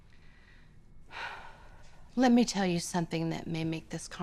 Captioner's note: sighs